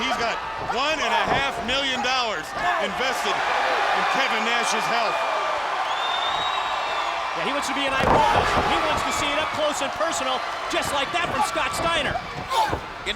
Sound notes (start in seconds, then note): 6.2 crowd cheering; 7.8 body slamming; 8.4 crowd cheering